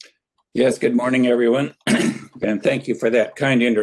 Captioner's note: clears throat